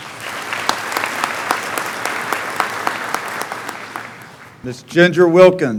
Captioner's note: clapping